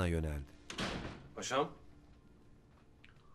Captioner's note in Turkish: Kapı kapanma sesi